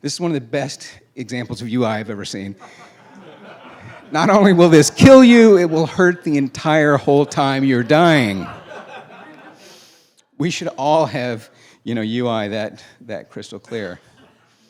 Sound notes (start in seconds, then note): 2.6 laughing